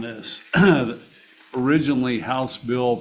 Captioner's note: clears throat